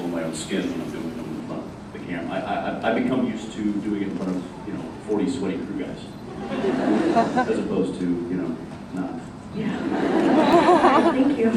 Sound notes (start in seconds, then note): 6.4 laughs; 9.7 laughs